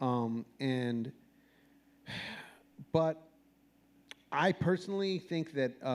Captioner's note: sighs